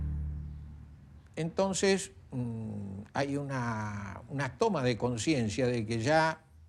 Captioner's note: man speaking in foreign language